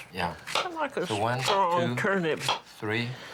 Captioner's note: chopping